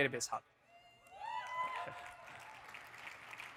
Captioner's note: audience cheers; audience applauding